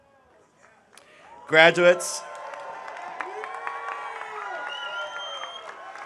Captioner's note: audience applauding